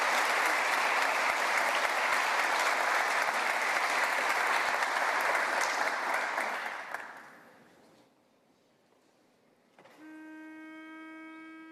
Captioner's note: applause